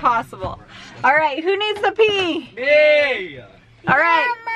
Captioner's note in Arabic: الجميع يصرخ